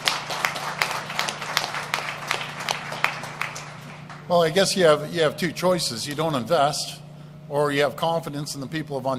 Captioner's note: applause